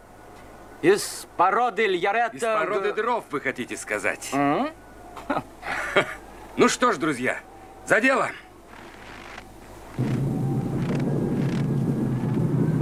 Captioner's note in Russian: смех